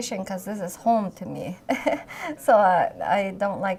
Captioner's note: laughs